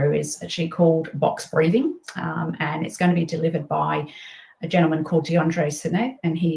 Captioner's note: none